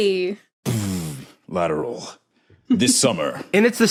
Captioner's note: imitates bass drop